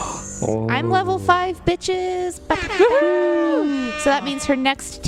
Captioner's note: makes the horn sound again as the other players cheer